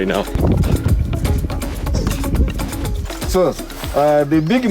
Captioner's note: wind blowing; upbeat electronic music